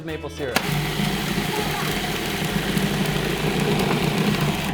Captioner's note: blender grinds